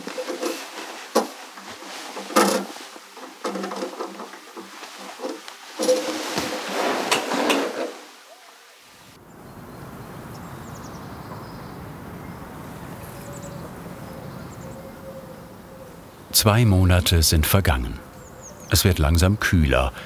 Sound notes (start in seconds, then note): 7.7 creaking; 9.2 wind noise